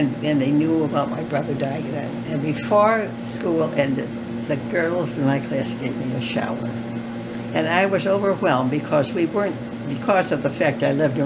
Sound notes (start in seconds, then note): none